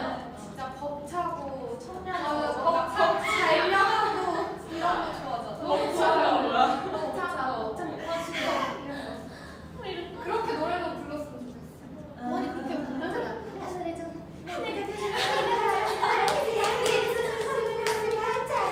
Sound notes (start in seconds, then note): 8.9 exhale!